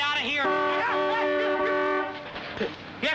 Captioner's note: car honks